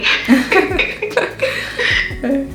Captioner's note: both laughs